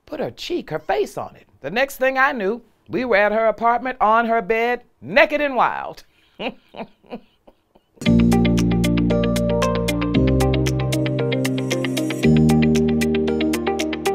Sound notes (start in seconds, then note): 6.3 laughs; 8.0 upbeat music